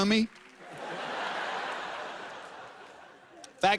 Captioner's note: laughter